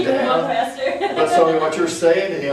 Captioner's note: laughter